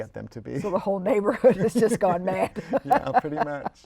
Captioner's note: laughter